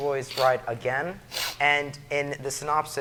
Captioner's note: sniffs